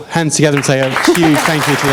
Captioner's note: applause